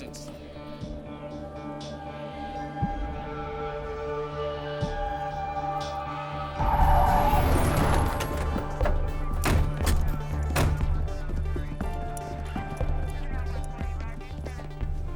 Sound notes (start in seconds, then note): 6.6 tires screech; 9.8 car doors closing; 11.2 police radio chatter